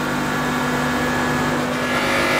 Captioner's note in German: Lautes Surren